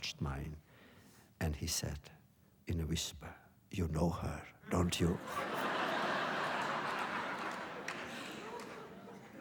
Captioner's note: laughter